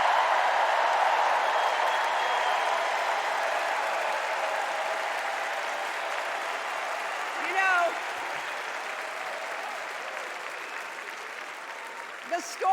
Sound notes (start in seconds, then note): 0.0 cheers and applause